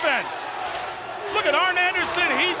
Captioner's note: American Males and audience clap